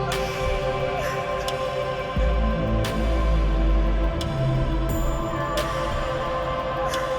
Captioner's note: crying